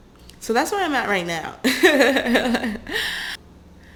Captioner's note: laughter